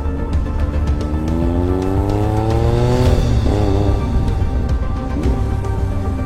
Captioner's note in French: Vrombissement du moteur